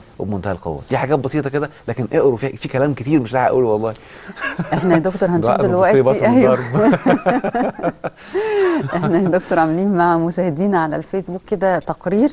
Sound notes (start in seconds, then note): 4.3 laughter!